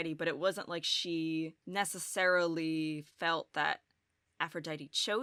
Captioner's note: none